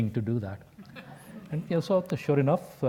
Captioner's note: laugh